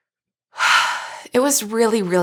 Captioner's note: sighs